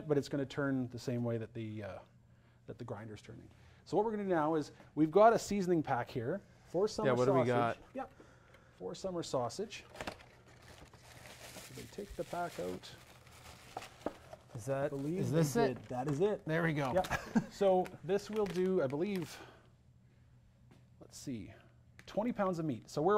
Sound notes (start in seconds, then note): 17.0 chuckles